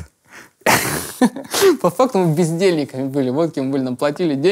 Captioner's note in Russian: смеясь